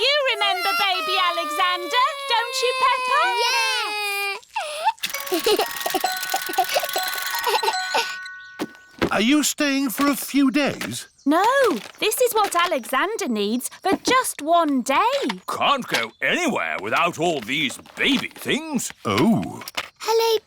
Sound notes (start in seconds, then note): 4.6 alexander giggles